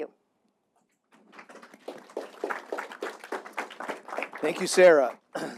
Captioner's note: audience applauding